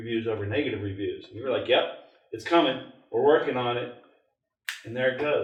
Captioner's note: snaps